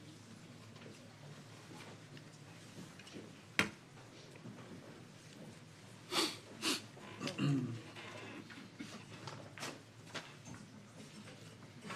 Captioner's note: clears throat; snorts